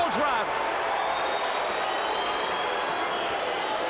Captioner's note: crowd cheers